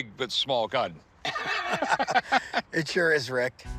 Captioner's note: laughter